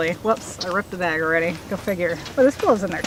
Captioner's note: ripping noise